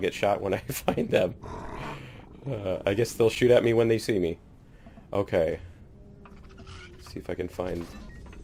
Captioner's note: laughs